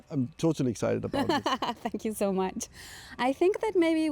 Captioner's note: laughter